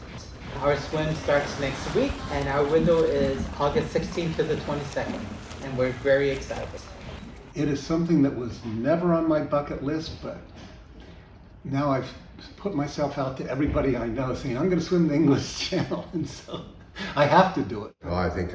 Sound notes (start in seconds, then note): 15.3 laughs